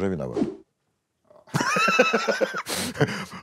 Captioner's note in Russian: смеется